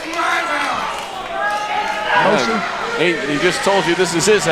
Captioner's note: crowd cheering